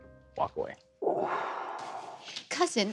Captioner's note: exhales